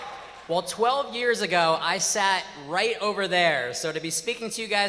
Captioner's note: cheers and applause